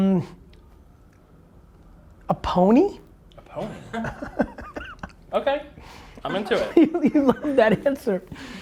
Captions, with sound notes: A pony. - A pony? (laughs) Okay, I'm into it. - You loved that answer.